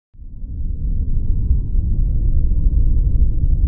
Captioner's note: low rumbling